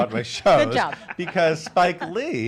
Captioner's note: laughs